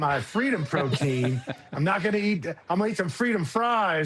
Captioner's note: laughter